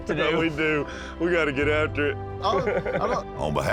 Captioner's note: laughter